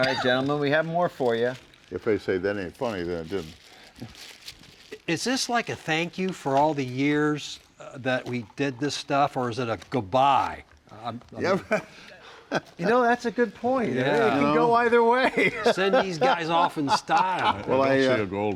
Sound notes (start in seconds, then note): 12.2 chuckles; 15.2 laughs